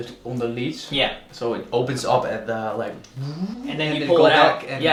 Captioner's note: whooshing